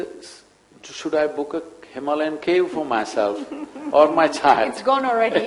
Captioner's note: laughs